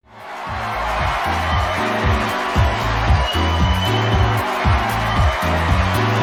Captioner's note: crowd cheering; upbeat music